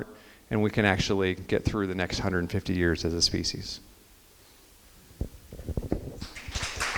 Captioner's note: crowd applause